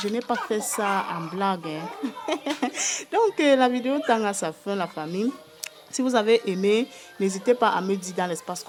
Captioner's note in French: rires